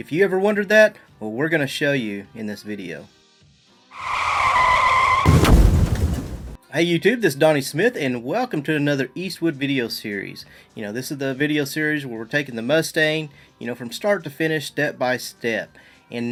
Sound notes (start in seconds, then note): 3.9 tires screeching